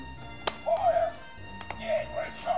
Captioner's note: clicks